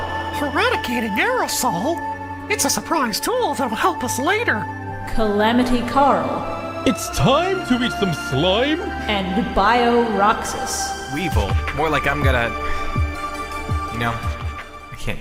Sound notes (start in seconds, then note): 0.3 Mickey voice